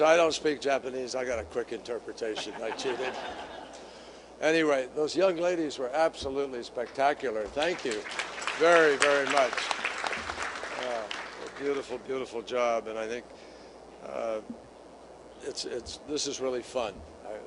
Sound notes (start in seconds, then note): 3.8 laughter; 7.6 applause